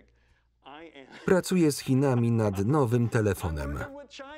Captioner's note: laughing